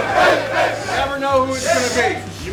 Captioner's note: yelling everywhere